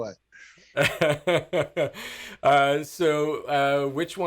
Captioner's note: laughing